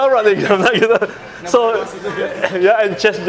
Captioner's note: giggles